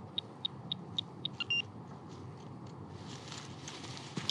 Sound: beeping

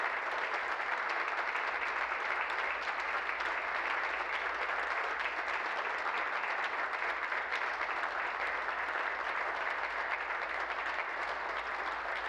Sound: applause

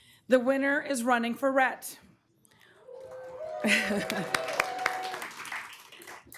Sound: applause

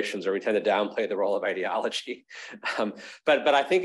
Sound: chuckles

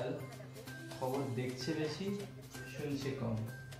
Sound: sarcastically

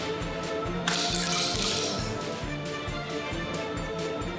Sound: shell smashes

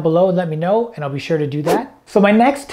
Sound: air whooshing

